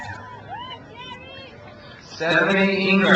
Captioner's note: crowd cheers